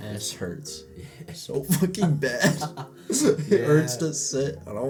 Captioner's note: laughter